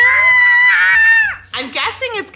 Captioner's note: boy screaming